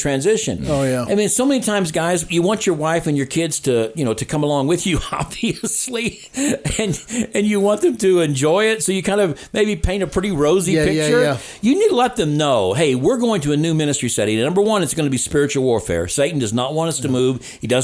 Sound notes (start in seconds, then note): 5.0 chuckles